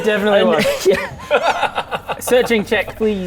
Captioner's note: even more disturbed laughter